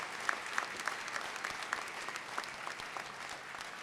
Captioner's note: applause